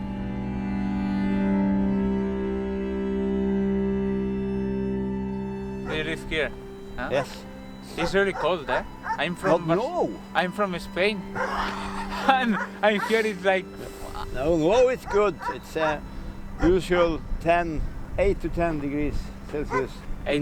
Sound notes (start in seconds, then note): 11.3 laughing